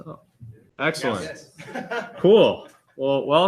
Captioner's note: laughter